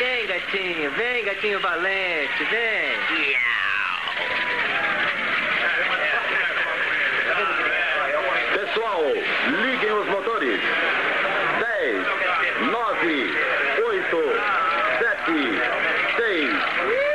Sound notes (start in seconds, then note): 0.1 meows; 8.2 engines Revving